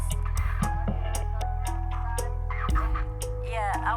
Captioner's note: distorted voice